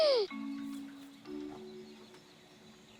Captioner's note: gasps